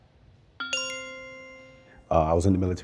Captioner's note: bell chimes